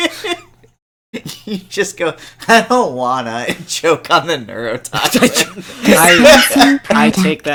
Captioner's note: laughs